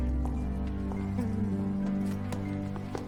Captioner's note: sighs